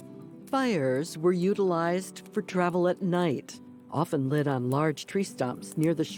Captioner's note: fire crackling